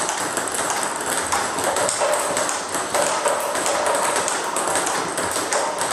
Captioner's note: ball ping pong hitting continues